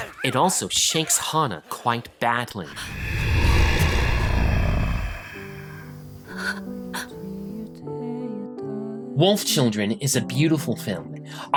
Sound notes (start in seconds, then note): 2.7 gutteral growl; 6.2 gasps